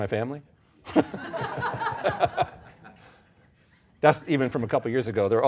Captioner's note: audience laughing